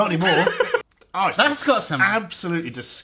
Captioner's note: laughs